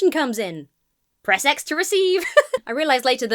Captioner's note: laughs